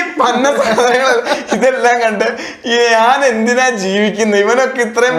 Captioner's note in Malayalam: പൊട്ടിച്ചിരി